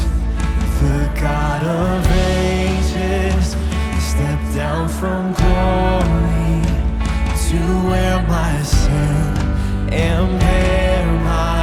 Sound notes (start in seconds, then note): none